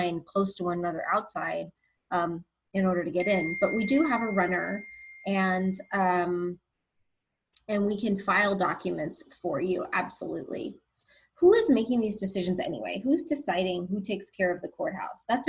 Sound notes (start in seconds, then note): 3.2 bell chimes